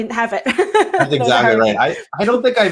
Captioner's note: laughs